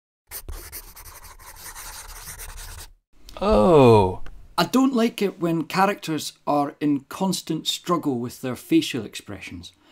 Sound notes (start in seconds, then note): 0.3 pencil scribbling